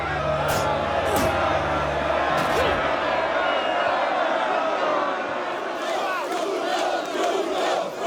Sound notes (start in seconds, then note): 5.8 audience chant